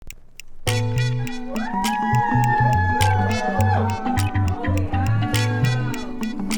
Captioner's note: upbeat music; audience cheering